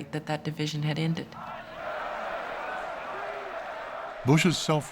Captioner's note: crowd clamoring